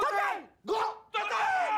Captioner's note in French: en choeur